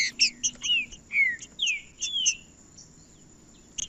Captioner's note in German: trinca ferro cantando